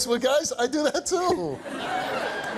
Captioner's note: audience laughs